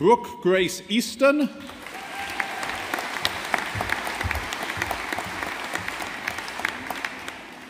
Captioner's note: audience applauding